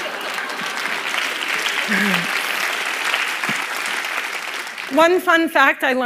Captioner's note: laughter; applause